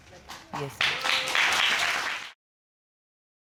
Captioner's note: audience applauding